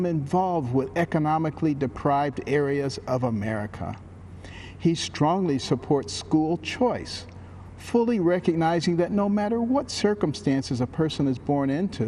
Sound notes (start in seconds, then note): none